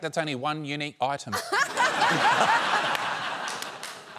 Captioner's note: laughs